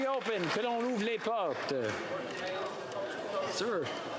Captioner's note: applause